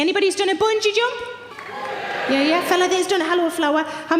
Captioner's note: audience cheering